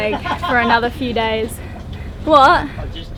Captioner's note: laughs loudly